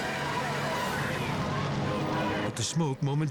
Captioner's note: resident shouts; tense music